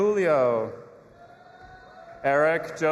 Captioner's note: audience applauding and cheering